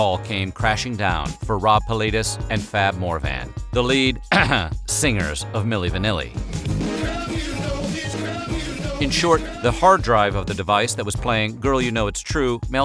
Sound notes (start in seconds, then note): 4.2 ironically clears throat; 7.2 singing